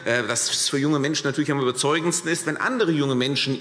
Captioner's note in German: none